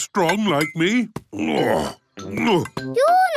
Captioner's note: grunts